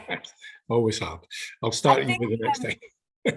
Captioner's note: laughs